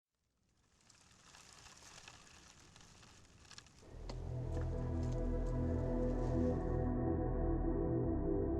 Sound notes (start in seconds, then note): 0.1 gentle light rain; 3.8 relaxing music